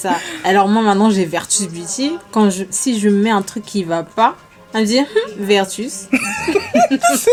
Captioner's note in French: rires; rires